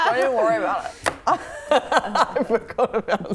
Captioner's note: laughing